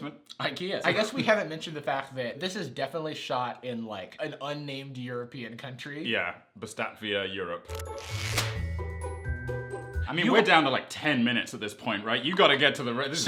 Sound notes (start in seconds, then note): 7.6 funky music; 8.0 rubber band sound